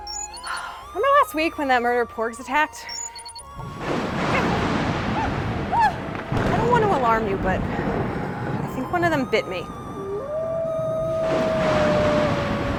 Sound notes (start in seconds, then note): 3.6 thunder crashing; 9.8 wolf howls, thunder booms